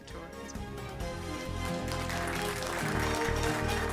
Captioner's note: applause and music